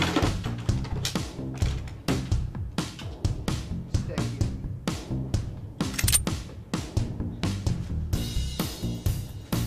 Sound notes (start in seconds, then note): 5.9 gun clicking